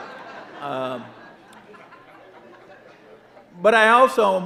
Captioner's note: audience laughing